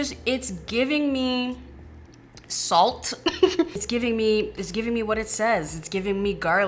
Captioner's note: laughs